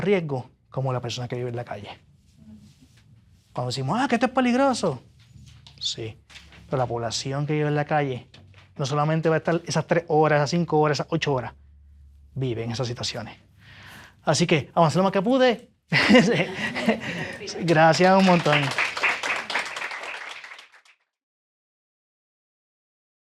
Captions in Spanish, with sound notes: riesgo como la persona que vive en la calle. Cuando decimos, "Ah, que esto es peligroso." Sí, pero la población que vive en la calle no solamente va a estar esas 3 horas, esas 5 horas, esas 8 horas, viven esas situaciones. Así que avancé lo más que pude. [risas] Gracias un montón. [aplausos]